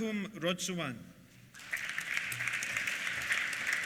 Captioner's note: applause